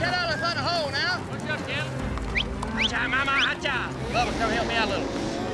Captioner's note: whistling, calling cows